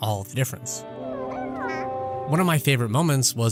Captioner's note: Baby yoda coos